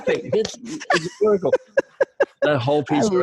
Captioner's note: laughing